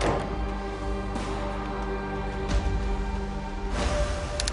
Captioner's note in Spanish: Portazo